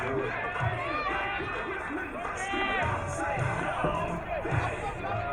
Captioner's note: crowd cheering